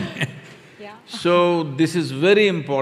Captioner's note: laughter/Applause